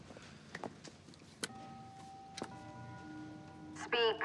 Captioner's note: doorbell rings